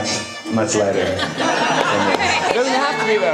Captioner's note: audience laughs